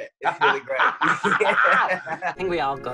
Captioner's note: laughs